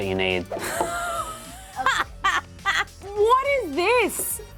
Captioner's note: laughing